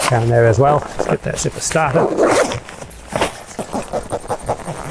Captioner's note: zipper gliding